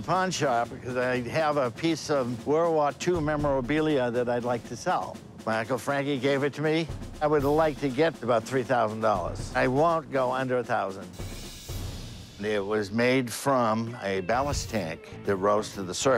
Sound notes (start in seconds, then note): none